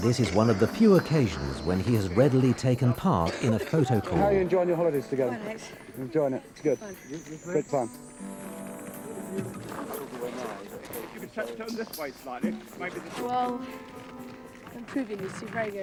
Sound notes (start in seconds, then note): 9.6 people chattering